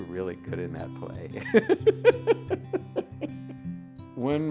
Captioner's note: laughs